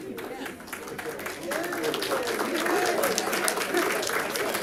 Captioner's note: audience clapping